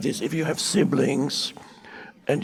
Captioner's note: none